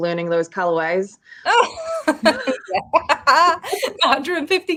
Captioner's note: woman laughing